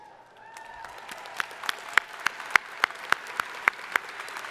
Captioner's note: crowd applauding